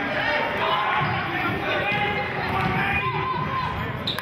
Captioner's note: yelling